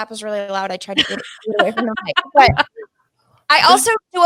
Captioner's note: all laughing